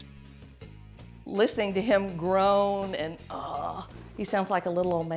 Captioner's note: mimics grunt